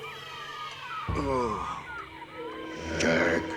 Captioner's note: groaning